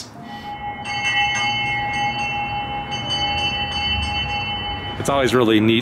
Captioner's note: bell ringing